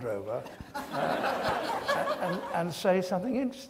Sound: audience laughs

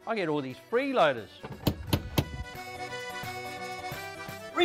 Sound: door knocking

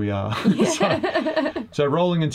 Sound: laughs

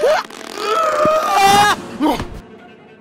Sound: muffled screams

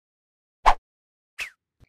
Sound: quick swoosh

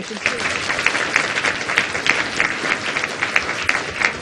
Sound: applause

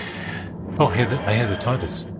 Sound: Tardis sound

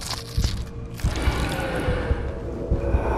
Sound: uncomfortable roaring

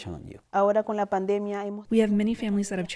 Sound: speaking in foreign language

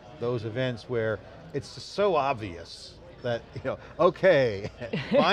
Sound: chuckles

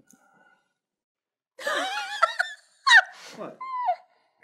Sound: laughter

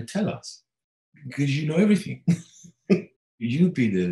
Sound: laughing

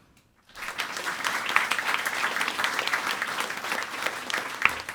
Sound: audience applauding

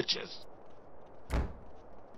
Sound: door slam

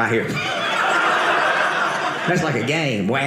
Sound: audience laughing

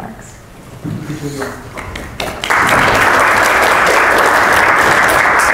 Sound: applause

